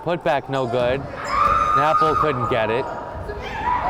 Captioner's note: woman screaming